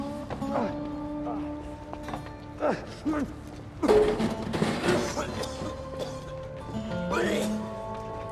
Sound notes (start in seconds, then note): 2.5 retching